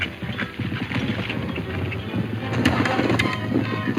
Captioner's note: hooves pounding; dramatic music